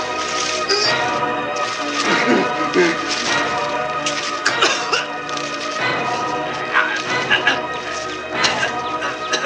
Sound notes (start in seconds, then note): 4.5 choking sound